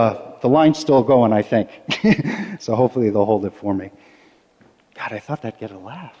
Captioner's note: laughter